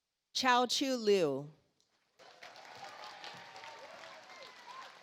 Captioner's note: audience applauds